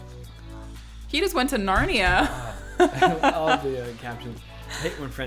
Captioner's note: laughs